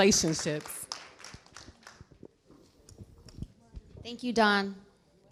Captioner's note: clapping